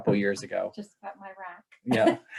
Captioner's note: laughs